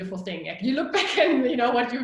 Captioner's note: laughing